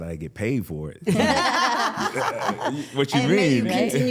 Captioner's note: all laughing